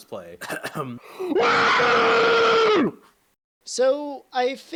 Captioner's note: cough; inhail; screams in Fish